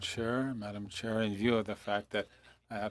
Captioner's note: speaking FRENCH